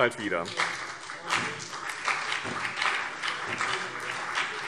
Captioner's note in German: Beifall BÜNDNIS 90/DIE GRÜNEN und CDU